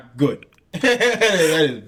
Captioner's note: laughing